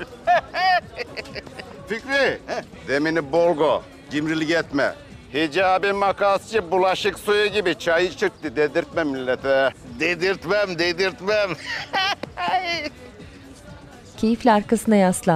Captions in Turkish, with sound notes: (Gülme sesleri) -Fikri... -He? Demini bol koy, cimrilik etme. Hicabi Makasçı bulaşık suyu gibi çay içirtti deme millete. Dedirtmem, dedirtmem! (Gülme sesleri)